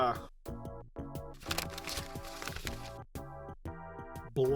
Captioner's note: shuffling pages